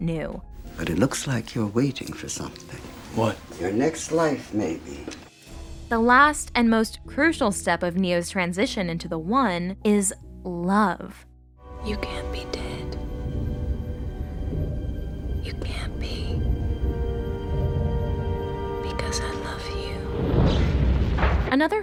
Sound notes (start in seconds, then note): 10.9 whispering